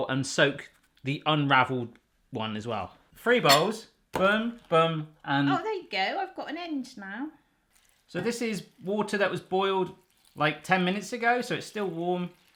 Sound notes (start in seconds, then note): 7.6 water trickling